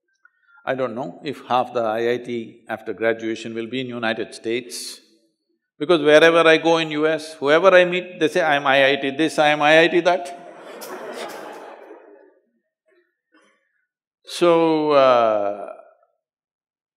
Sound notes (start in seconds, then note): 13.1 laugh